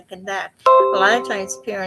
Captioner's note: notification sound